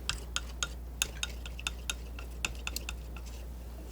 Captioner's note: tapping